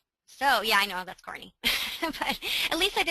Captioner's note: laughs